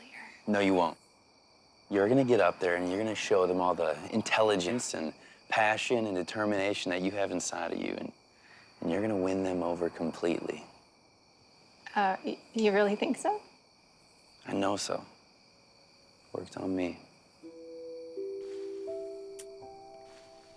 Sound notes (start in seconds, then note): 19.2 kisses